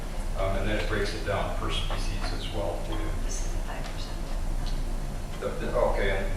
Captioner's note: whispering